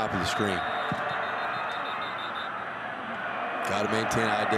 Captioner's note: referee blows whistle